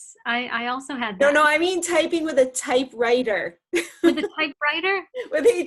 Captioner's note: laughs